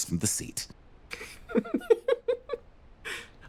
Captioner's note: laughs